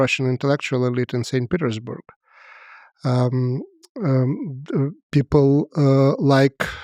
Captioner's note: speaks foreign language